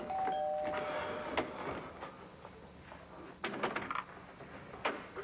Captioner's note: doorbell rings